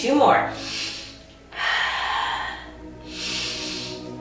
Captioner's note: breathing deeply